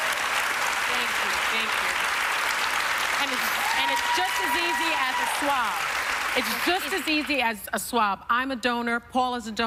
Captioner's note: applause